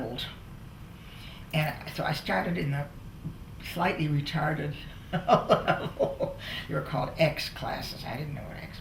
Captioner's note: laughter